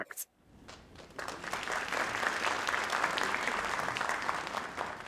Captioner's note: audience applauding